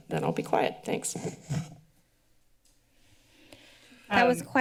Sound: pause

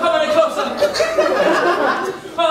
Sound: audience laughing

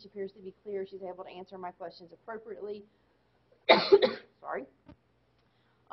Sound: coughing

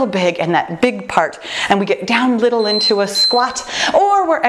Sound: timer beeping

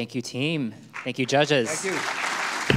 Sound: audience clapping

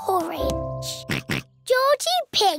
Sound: oinks

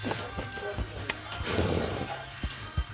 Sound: slurp~

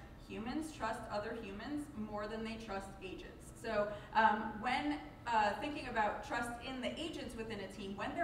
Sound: none

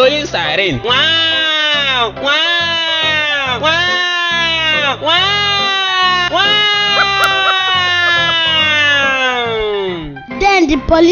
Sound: ngwaaaaaa x N times

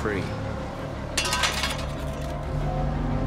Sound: rake clatters

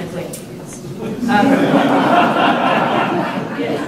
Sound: laughter

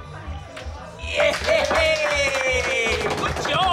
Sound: cheering and clapping

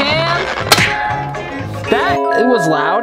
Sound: metal reverberating

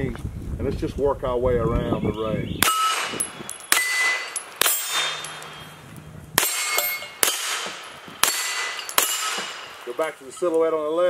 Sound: bang, bang, bang, bang

